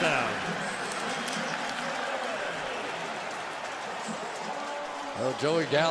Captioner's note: pa announcement